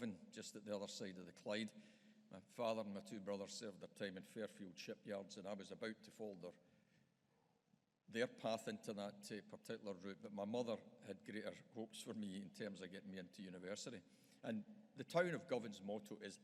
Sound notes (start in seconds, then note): none